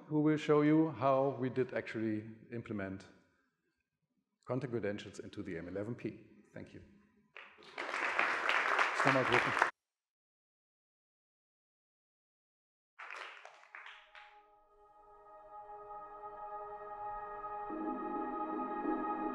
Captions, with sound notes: who will show you how we did actually implement content credentials into the M11-P. Thank you. (audience applauding) (relaxing music)